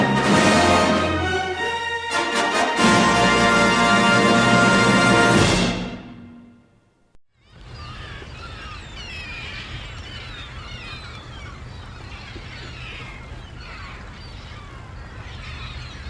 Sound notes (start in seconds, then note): 7.5 seagulls chirping